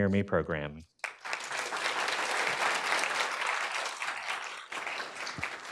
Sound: attendees applauding

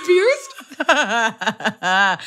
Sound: laughter

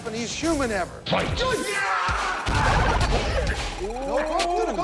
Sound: wrestlers grunting

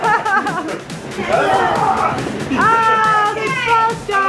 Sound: laughs; screams

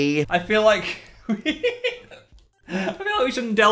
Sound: laughs

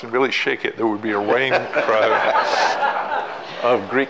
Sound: all laughing

